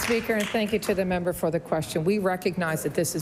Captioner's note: applause